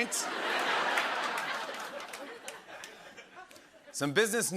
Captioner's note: laughter and applause